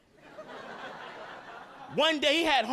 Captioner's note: audience laughing